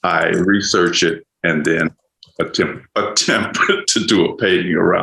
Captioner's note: chuckles